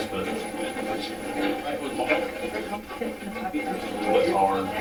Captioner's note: static playback transmitting